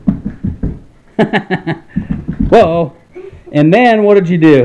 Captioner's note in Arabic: يضحك